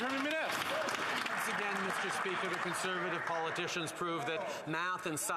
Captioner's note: some Applause